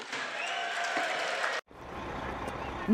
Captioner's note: cheering and applause